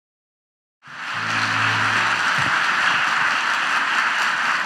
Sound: audience applauds

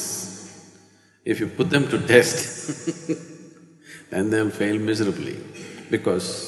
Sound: laughs

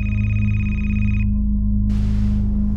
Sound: phone rings

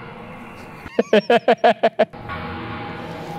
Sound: dramatic music; laughs; dramatic music continues

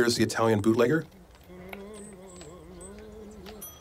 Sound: man humming; bell dings

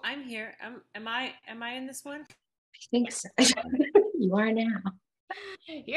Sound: laughs

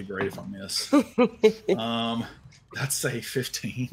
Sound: laughs

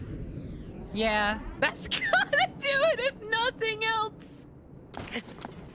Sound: laughing

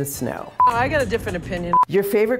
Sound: beeping

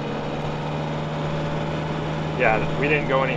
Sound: boat engine roaring

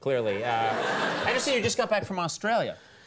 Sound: audience laughing

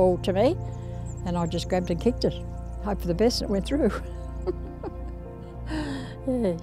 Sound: laughs

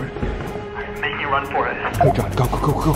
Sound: beep

